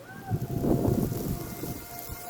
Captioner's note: wind